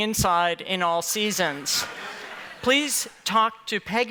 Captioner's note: laughter